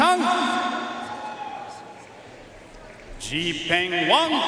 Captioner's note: audience cheering and applauding